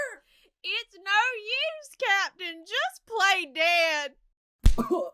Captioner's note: crying